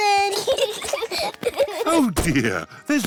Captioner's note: peppa and george giggling